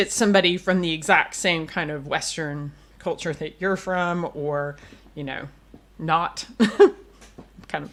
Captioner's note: laughs